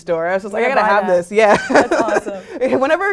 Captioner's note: laugh